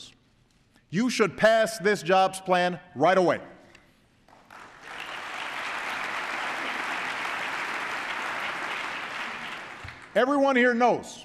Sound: applause

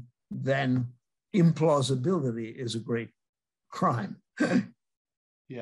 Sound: chuckles

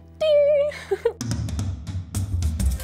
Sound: laughter; upbeat music

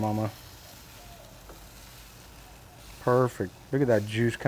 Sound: meat sizzling

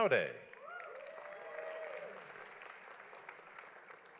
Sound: audience applauds

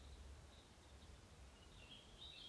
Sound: birds chirping

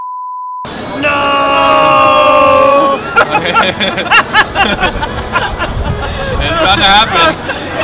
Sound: beep; laughter

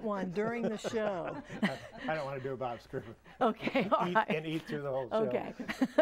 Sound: laughing

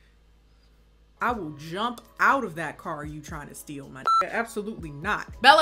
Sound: beep

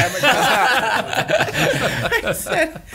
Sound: laughter

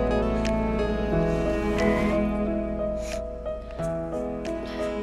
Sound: sniffs; tires screeching

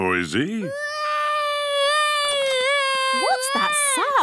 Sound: baby wailing

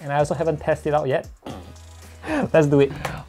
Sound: laugh that sounds like fart

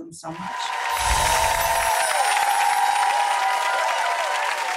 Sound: applause and cheering

